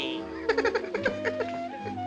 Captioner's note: Fruity giggles